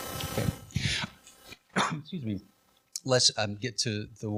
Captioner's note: coughs